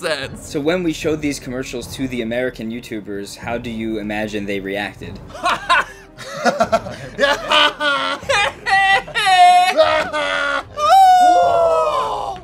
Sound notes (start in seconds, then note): 5.3 chuckles